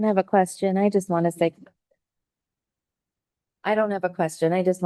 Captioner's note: audio cuts out